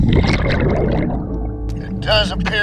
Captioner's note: water gurgling